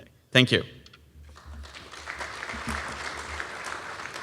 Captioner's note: applause